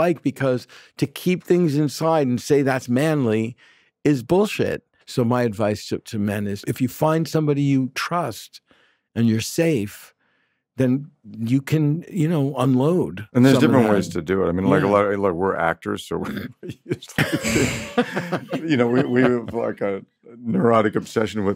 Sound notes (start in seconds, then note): 16.2 laughs